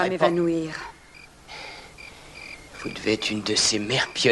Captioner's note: chuckles